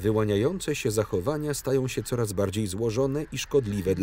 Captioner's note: geese call